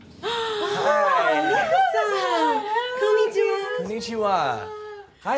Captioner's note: speaking in foreign language